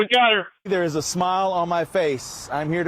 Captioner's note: police audio